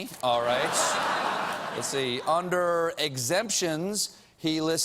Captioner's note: laughter